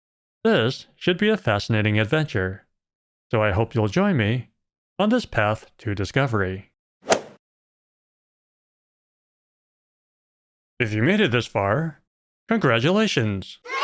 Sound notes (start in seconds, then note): 7.1 golf ball hit sound; 13.6 kids cheering sound